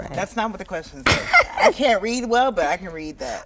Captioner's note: Marsai laughs